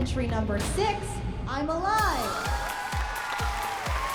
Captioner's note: audience cheers